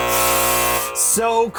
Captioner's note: buzzer sounding